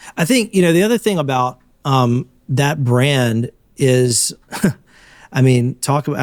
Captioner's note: chuckles